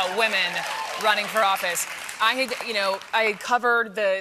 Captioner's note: applause